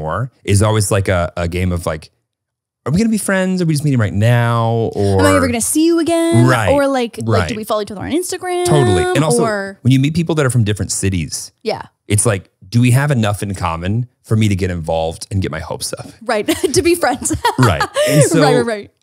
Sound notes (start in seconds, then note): 16.4 laughs